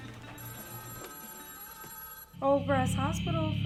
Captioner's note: telephone ringing